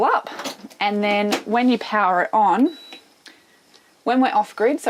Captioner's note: dishwasher beeping